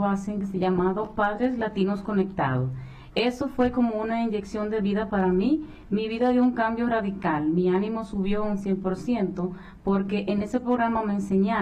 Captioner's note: speaking spanish